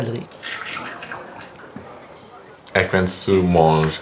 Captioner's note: loud chewing